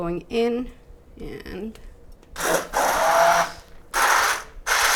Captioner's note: mixer whirs